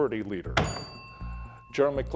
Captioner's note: bell dinging